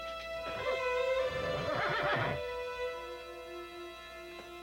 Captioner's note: horse whinnying